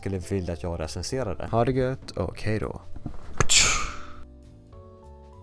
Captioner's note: Spider-Man sound